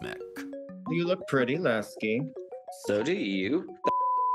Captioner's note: beep